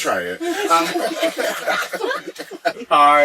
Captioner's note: laughing